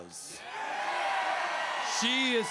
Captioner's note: crowd cheers